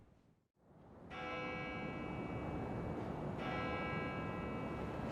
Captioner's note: bells tolling